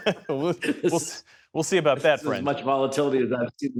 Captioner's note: laughter